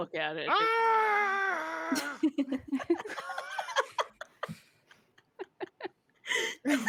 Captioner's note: group giggles